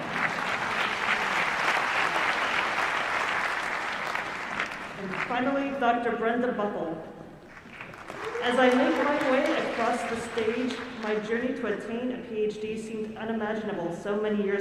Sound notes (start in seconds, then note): 0.0 laughter; 0.0 applause; 7.4 applause